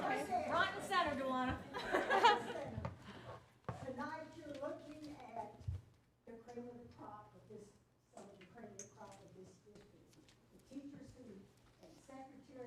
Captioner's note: laughter